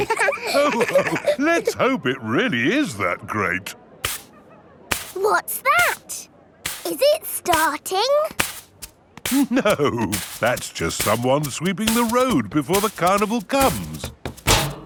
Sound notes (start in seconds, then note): 0.0 all laughing; 4.0 brushing